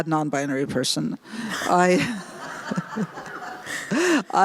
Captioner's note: laughter